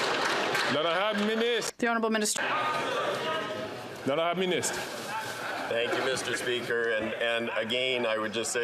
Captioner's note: some Applause